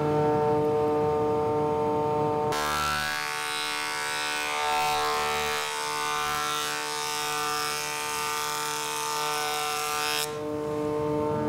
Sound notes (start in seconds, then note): 0.1 loud machine humming; 3.2 loud whirring